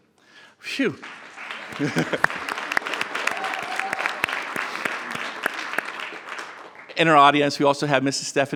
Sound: applause

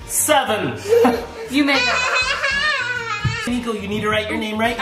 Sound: laughs

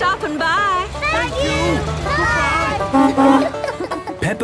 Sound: honking

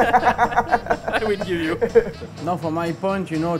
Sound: laughting

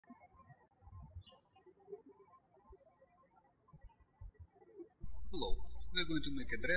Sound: birds chirping

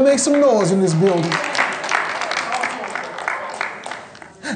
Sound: applause

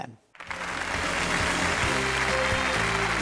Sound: audience applauding

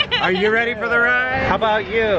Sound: laughing

